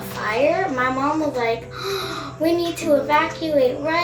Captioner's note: gasps